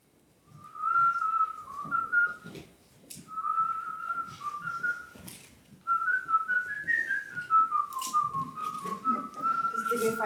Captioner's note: Jack and Algernon whistling